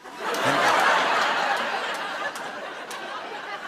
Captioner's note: laughter, ohs, and applause